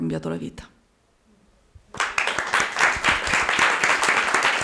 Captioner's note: Applauso